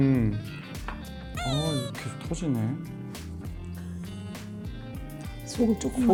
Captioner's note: upset